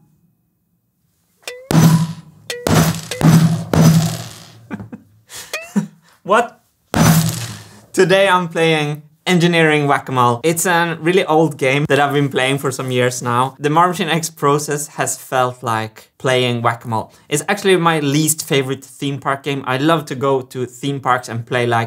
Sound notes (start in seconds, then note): 0.1 whack; 1.4 poing; 5.4 laughing; 6.9 whack